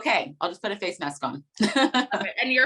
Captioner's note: laughing